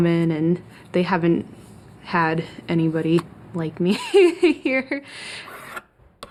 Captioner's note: laughs